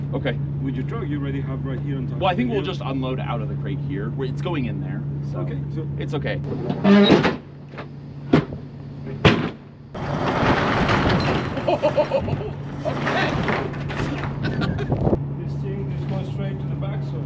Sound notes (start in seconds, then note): 6.5 gate creaks; 10.0 door whooshes; 10.0 gate slams; 11.7 laughs